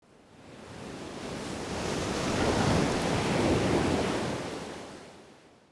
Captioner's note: waves crashing